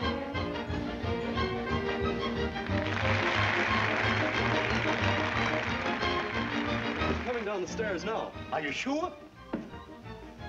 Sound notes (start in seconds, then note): 0.1 orchestra playing; 2.5 applause